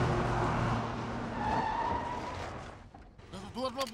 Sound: tires squealing

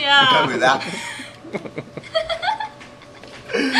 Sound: laughing

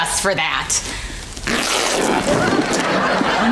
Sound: ripping

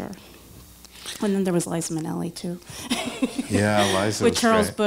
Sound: laughs

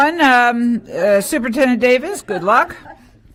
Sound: laughter

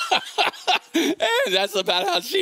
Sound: congregation laughing

